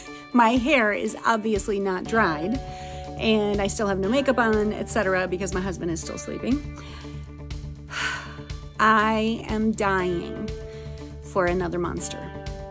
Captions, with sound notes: My hair is obviously not dried and I still have no makeup on, etc. because my husband is still sleeping [big sigh] I am dying for another monster.